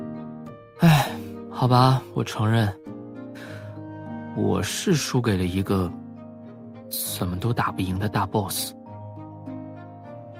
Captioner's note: sigh